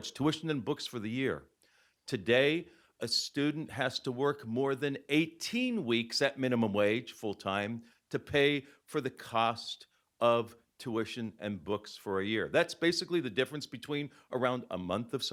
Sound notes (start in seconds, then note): none